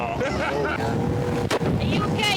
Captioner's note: laughs